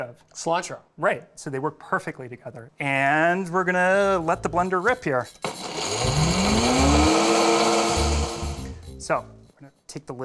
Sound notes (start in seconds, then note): 5.3 whirring